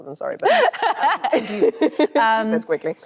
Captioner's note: Anne laughs cheerfully